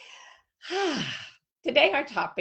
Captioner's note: sighs loudly